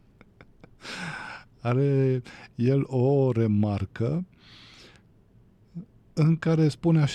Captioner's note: laughter; sigh; gasp